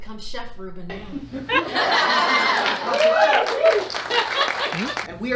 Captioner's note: audience laughing